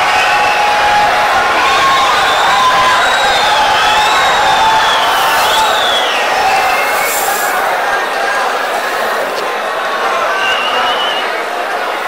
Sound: wild applause and cheering for 22 seconds

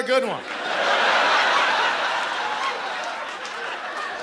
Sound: laughter

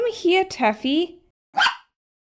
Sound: bark!

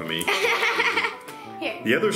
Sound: laughs

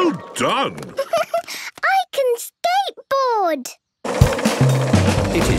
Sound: giggles

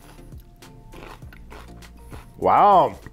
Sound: food crunching

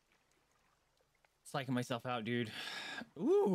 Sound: exasperated sigh

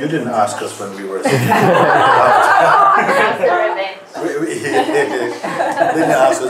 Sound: laughter

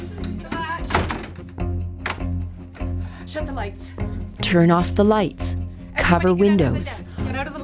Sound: sound of bolt moving into place

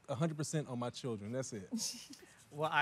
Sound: chuckles

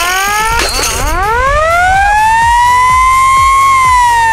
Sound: siren; crashing

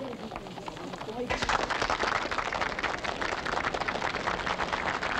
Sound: audience applauding

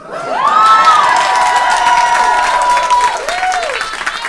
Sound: audience cheers

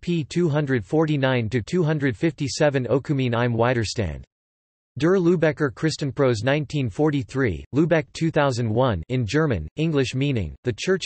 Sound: in German

